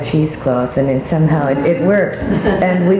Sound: audience laughs

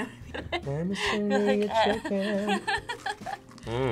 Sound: laughs

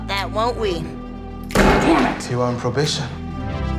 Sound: door slams

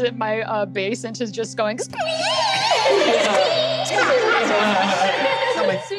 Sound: squeeming

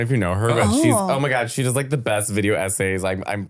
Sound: laughing

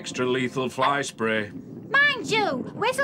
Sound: rumbling

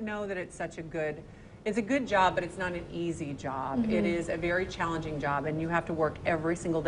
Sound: laughs

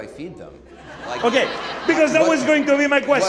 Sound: audience laughing

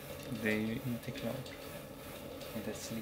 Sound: speaking Swedish

